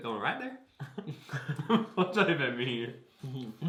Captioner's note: both laugh